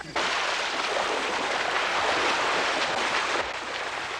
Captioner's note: water splashing